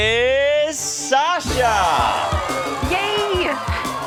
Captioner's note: crowd cheers